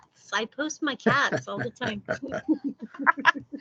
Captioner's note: laughing